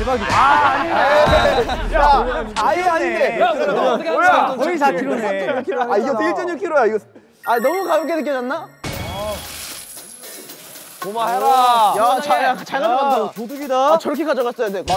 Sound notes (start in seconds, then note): 12.5 flood of coins